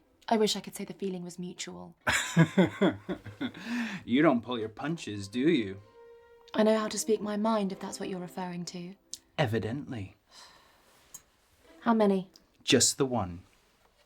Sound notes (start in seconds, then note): 2.0 Michael laughs; 10.4 Charlotte sighs